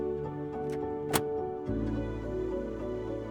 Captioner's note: filter clicks together